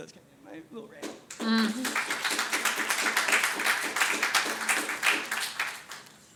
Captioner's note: audience applauds